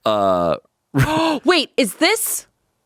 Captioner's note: gasps